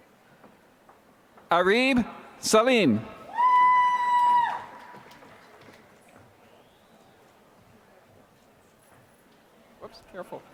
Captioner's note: applause